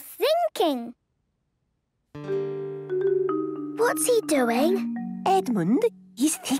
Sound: whispering

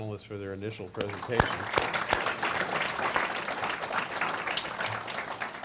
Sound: audience applauds

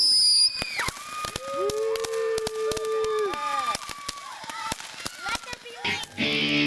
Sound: popping; cheering; rock music

